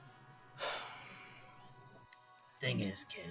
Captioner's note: Hank sighs